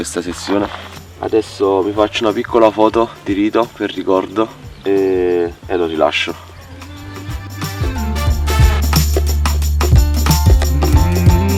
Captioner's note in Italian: Applauso